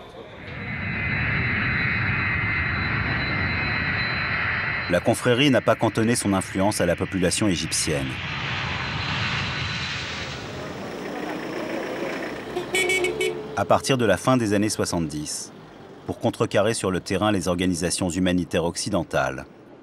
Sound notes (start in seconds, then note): 0.2 airplane takeoff; 11.7 engine; 12.5 horn